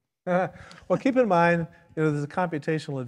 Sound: laughs

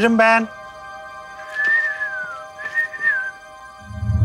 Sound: whistles continue; thriller music

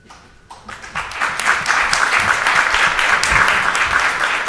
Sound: audience applauds

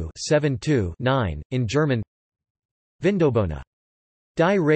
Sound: in German

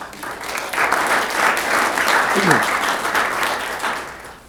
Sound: applause

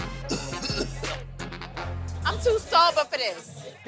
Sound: coughs

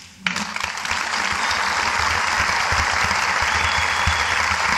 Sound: audience clapping

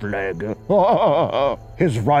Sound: hahahaha

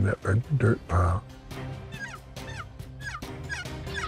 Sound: turkey call

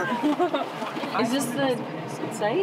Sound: laughing

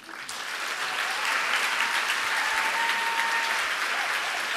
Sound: audience applauds

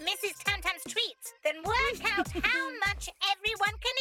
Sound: giggling

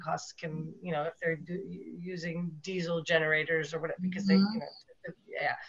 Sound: audio glitch

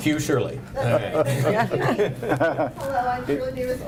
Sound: laughing

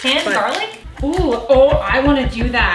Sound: chopping

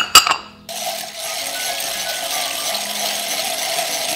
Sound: whisking

